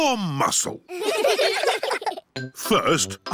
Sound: all giggling

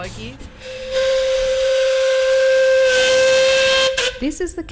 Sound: whistle

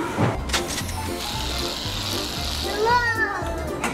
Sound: machine clicks and whirs

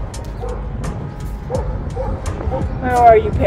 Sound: barking dog

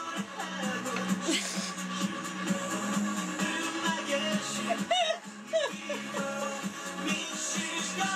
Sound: laughs; gasp

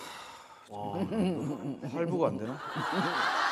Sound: sighing

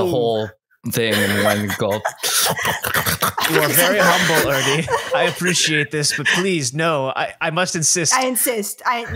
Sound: eating sounds

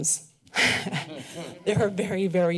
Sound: laughter

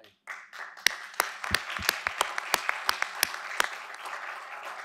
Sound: audience applauding

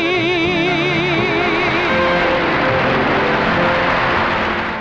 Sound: audience applauding

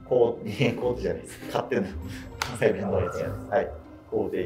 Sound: laughing

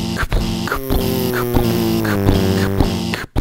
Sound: car buzzing

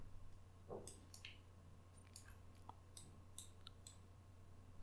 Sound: mouse clicking

